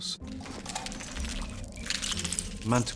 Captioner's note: creatures chitter